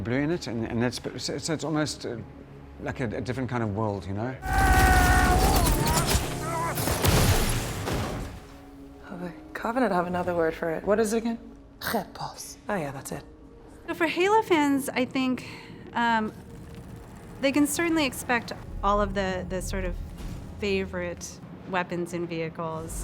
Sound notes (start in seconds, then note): 5.2 weapon shoots rapidly; 11.6 soldier speaks foreign language